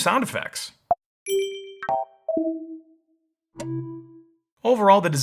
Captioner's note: sound alerts dinging